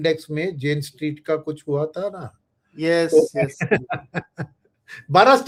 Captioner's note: laughs